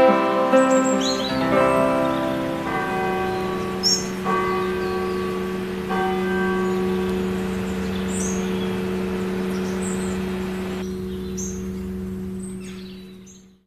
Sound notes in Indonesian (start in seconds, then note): 1.5 lonceng gereja; 1.5 suara burung